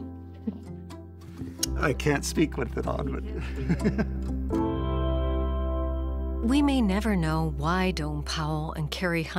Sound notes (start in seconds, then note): 0.8 gentle music; 3.2 laughs; 5.3 gentle music